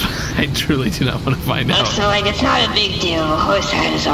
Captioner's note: laughing